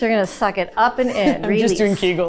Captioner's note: producer chuckling